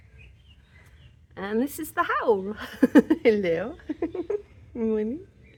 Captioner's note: chuckling